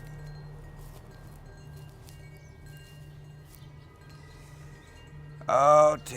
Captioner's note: soft tense music; gentle chiming